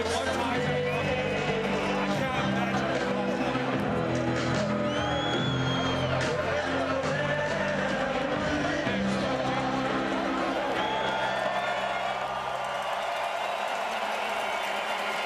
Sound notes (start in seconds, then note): 4.5 crowd Noise